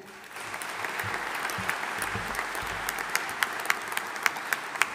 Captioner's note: audience applauding